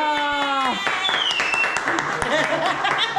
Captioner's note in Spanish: Aplausos